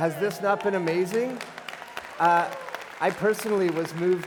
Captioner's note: applause